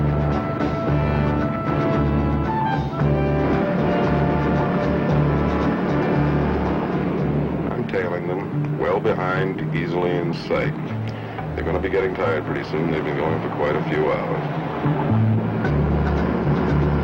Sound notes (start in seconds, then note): 0.2 suspenseful music; 4.8 truck engine whirring; 16.3 engine whirring; 16.3 suspenseful music